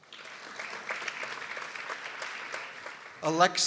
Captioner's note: people applauding